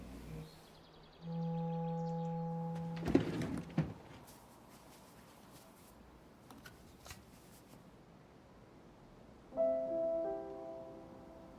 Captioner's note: groans